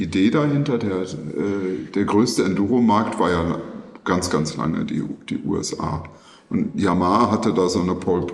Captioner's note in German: räuspern